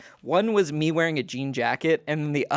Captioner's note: none